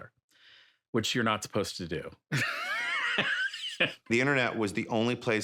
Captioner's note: laughs